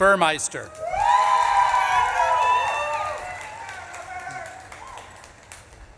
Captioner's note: audience claps and cheers